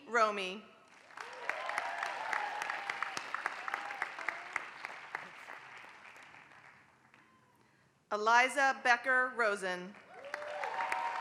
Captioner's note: applause; applause